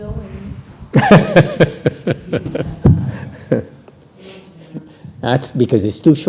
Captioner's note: laughter